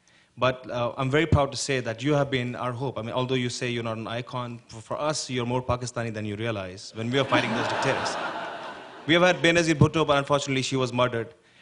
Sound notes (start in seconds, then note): 7.1 laughter